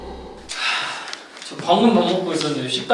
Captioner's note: sighs